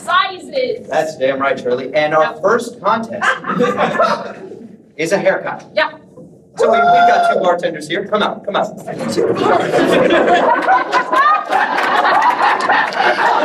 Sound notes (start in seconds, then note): 3.2 audience laughs; 6.6 audience member cheers; 9.0 audience laughs